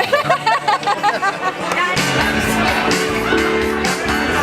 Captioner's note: woman laughing